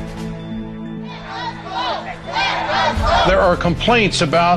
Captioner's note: chants "Let us Vote"